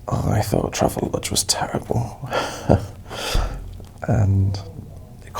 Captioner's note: chuckles